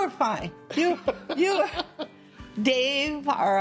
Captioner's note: laughs